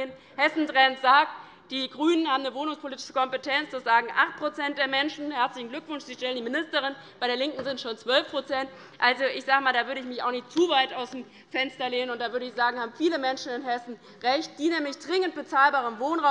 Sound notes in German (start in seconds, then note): none